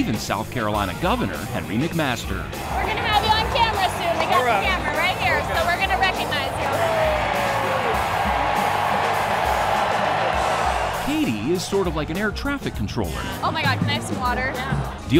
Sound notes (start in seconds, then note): 7.3 crowd cheers; 7.3 driving music continues